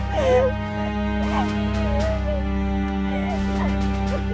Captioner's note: sobs